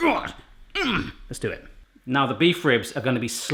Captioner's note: grunting